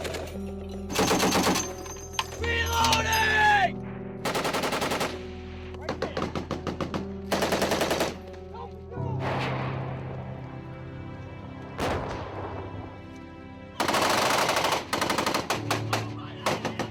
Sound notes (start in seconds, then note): 0.0 somber music; 1.0 gun firing; 5.8 guns firing; 10.0 explosion blasting; 13.8 guns firing